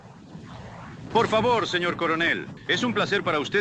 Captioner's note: in spanish